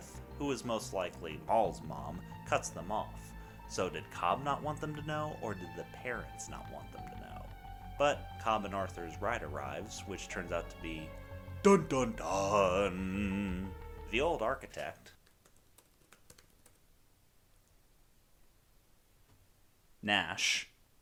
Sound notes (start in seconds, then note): 15.2 types on computer